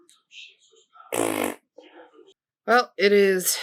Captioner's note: raspberry